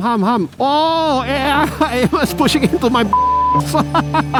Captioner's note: beep